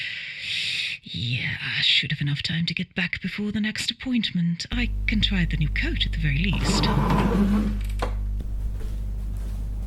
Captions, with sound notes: Yeeaaah, I should have enough time to get back before the next appointment. I can try out the new coat at the very least [Chair dragging on the floor]